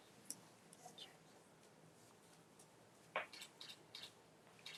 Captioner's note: camera Click